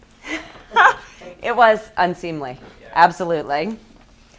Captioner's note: laughs